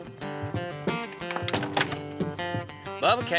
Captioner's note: saddle thuds